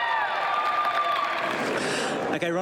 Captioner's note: cheering